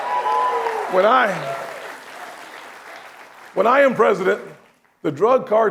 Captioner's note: applause